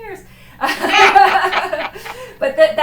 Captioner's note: laughter